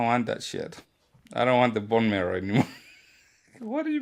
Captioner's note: laughs